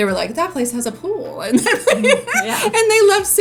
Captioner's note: laughs